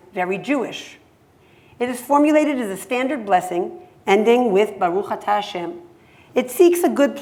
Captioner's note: hebrew